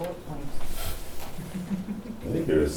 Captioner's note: laughs